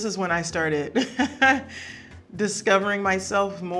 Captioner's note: Serena laughing